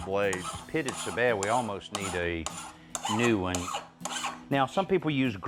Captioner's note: scraping